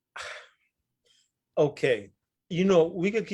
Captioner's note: sighs